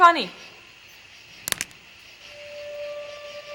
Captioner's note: branch cracks; tense music